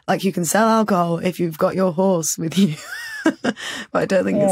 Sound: laughs

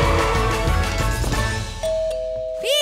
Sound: doorbell ringing

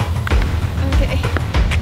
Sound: stammering; soft thump; water splashing

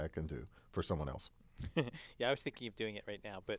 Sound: laugh

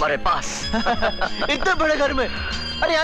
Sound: laughs

